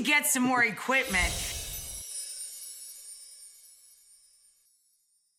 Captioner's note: whimsical sparkle